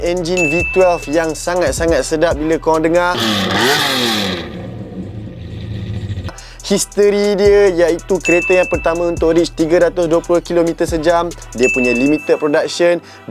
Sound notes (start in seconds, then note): 3.3 heavenly V12 Satan noises